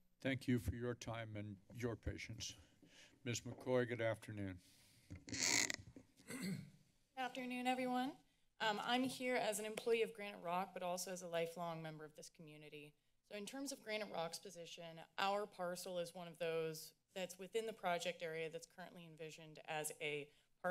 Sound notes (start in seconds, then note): 5.1 mic squeaks; 6.2 clears throat